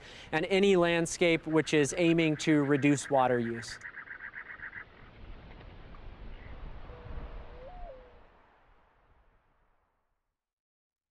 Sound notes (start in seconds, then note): 4.0 desert sounds